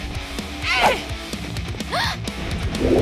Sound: grunting; gasping

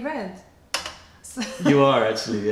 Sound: laughter

